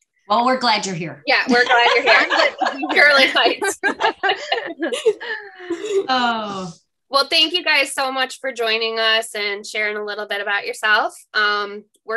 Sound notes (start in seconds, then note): 4.0 all laugh